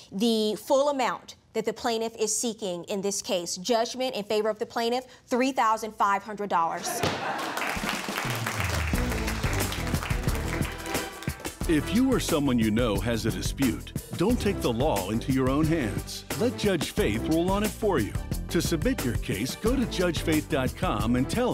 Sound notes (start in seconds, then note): 7.0 audience applaud